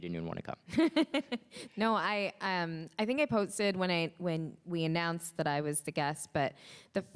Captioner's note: laughs